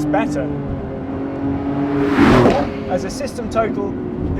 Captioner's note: car whizzes past